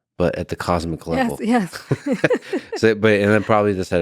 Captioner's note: laughs